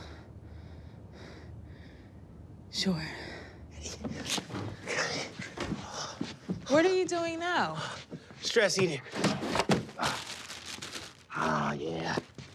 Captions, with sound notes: (heavy breathing) Sure. (heavy breathing) What are you doing now? Stress eating. Ah, yeah.